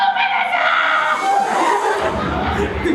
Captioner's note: audience laughs